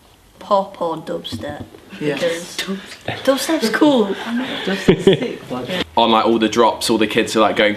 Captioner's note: laughs